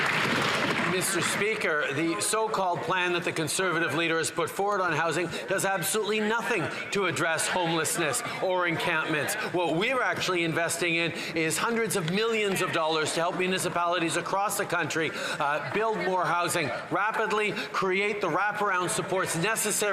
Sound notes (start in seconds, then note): 1.6 some Applause